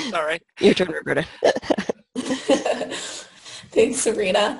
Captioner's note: laughter